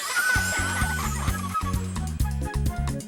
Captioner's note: all laughing